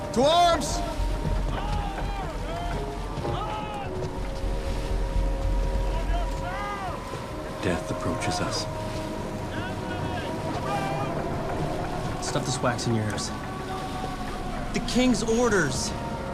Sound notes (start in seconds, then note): 5.2 sailors shouting; 5.2 sinister music